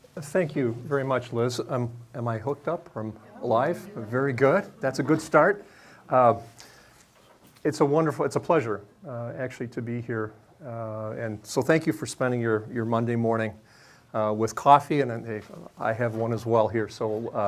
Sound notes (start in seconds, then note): 2.7 audience chattering